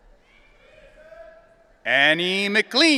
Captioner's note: audience cheering